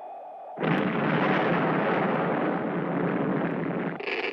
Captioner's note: explosion booming; static crackling